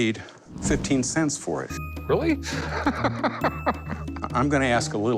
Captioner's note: laughs